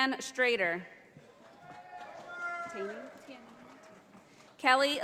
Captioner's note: audience applauding